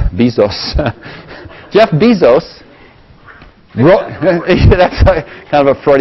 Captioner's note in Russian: Смеется; смеется; смех